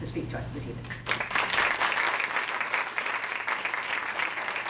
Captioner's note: audience applause